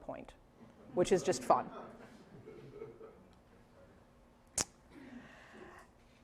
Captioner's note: laughter